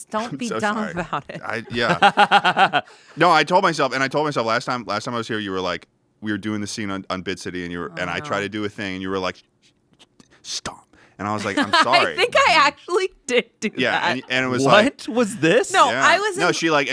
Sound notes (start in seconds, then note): 1.1 everyone laughs